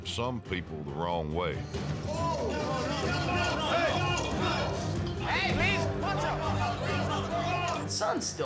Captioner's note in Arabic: الصراخ، القتال